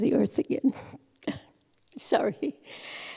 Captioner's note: voice breaks